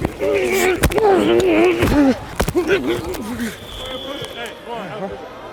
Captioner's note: grunts and bodies colliding